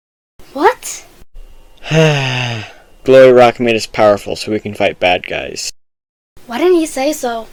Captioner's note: sighs